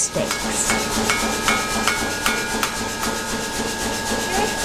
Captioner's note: steel clanging